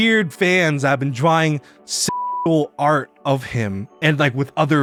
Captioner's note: beeps